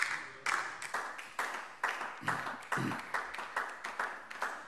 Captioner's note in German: Beifall DIE LINKE